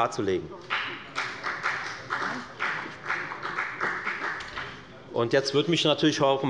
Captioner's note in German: Beifall bei der FDP